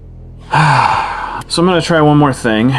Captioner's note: very big sigh